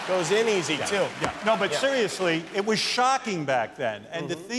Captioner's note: laughter